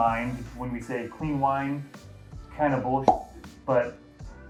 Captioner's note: pop